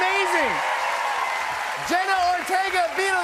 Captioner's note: cheers and applause